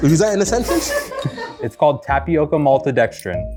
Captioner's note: women laughing